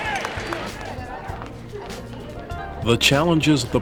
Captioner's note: mixed chatter